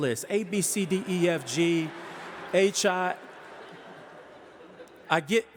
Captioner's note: audience laughing